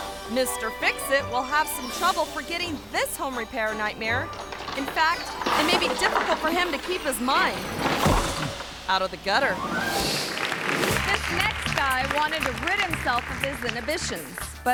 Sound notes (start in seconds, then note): 7.9 person thuds; 9.4 screen whooshes